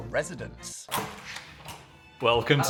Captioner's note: door clicks